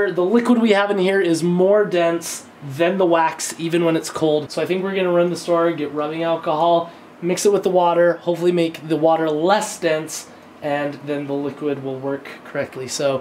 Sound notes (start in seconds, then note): none